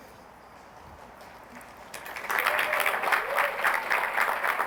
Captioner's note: applause